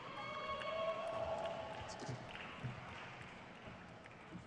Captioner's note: audience cheers